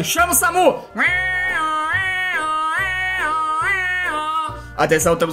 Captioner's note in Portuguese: imita uma sirene de ambulância